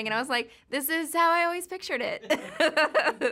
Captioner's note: laughing